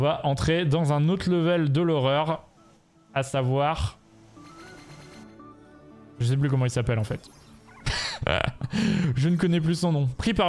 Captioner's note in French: rires